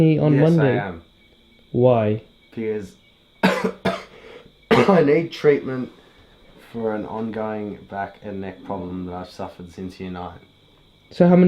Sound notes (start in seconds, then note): 3.4 coughs